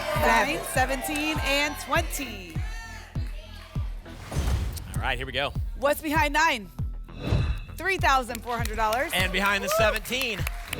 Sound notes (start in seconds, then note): 2.7 audience shouting numbers; 4.1 whoosh; 4.3 thump; 7.1 whoosh